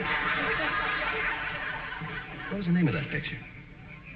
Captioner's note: audience laughing